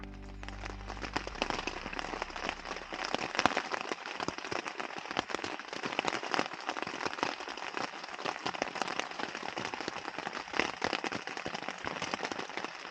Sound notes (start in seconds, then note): 2.4 raining